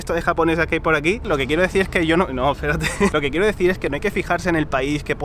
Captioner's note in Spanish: risas